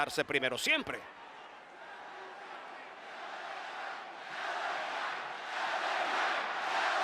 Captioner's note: applause